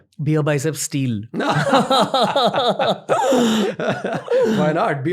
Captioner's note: laughter